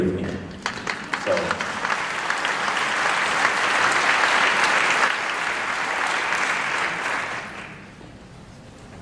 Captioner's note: applause